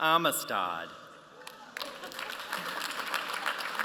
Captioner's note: applause